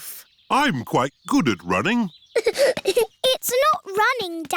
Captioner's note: giggling